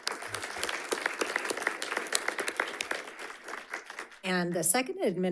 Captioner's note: audience applauding